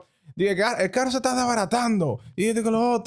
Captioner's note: speaking In Foreign Language